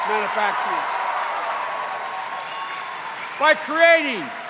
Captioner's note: cheers and applause